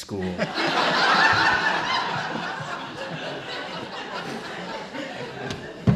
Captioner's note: laughter